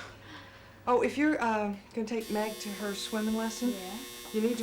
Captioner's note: buzzing